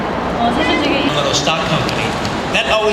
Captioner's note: speaking Korean